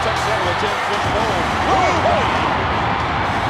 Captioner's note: firework booms